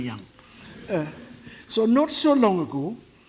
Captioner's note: audience laughs